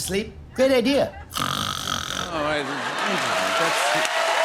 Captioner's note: snoring